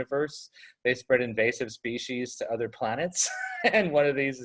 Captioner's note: laughs